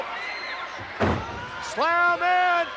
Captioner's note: body thuds